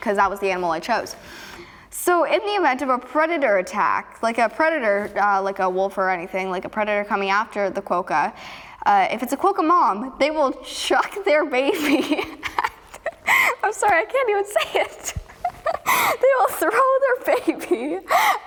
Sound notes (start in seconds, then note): 12.4 laughs; 14.8 laughs